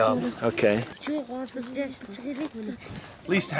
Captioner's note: women murmuring